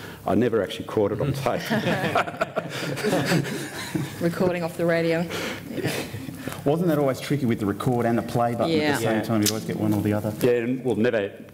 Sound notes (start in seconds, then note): 1.6 laughter